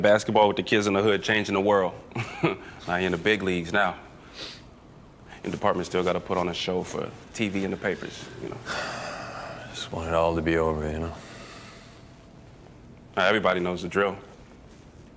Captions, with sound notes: with the kids in the hood, changing the world. (chuckles) He in the big leagues now. Your department's still gotta put on a show for TV and the papers, you know. (sighs) - I just want it all to be over, you know? - Everybody knows the drill.